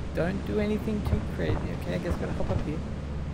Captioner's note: creature outside stomping about